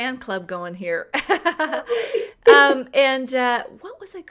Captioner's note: laughter